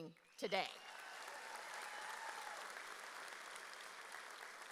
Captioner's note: audience cheers